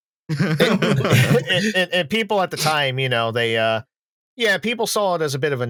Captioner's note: laughter